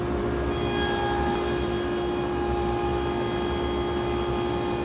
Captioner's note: tool squealing